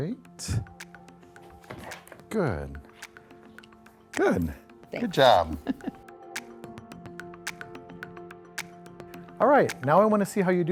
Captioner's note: laughter